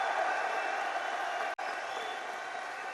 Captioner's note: applause